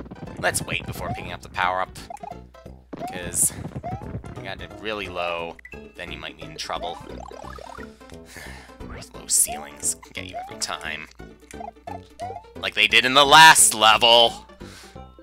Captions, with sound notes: Let's wait before picking up the power-up. Because... ...if you got it really low, then you might be in trouble. (*sigh*) Those low ceilings can get you every time. Like they did in the LAST level!